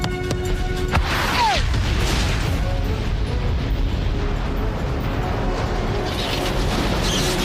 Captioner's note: explosion